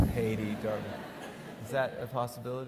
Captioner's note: audience laughing